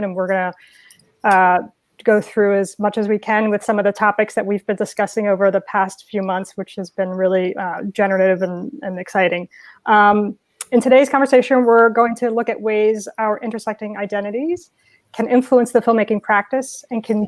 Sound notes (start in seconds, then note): none